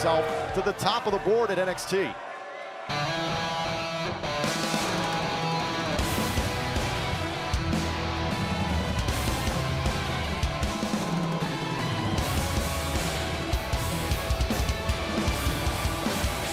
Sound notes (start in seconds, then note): 3.8 crowd cheering